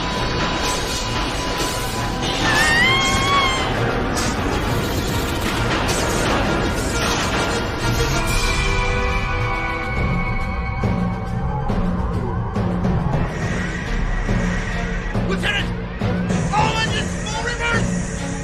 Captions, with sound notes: [Scream] Lieutenant! All engines, full reverse!